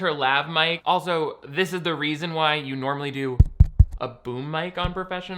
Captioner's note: mic thuds